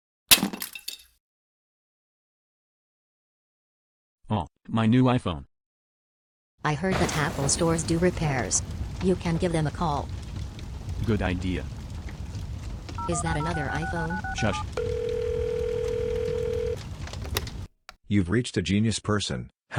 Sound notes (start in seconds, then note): 0.3 Crunch; 7.0 explode; 11.9 burning continues; 12.8 dials; 14.8 call tone